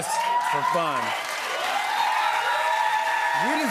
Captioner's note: cheers and applause